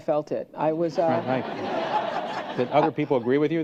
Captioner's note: laughter